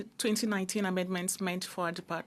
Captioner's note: speaking in French